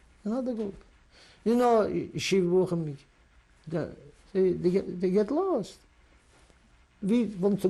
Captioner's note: non-english